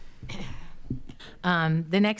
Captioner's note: coughs